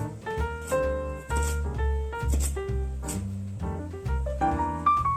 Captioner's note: crac crac crac